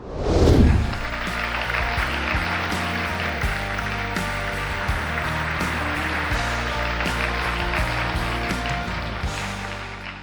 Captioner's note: applause, Music